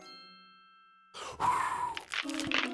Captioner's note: blows